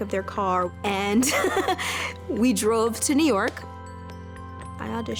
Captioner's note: laughs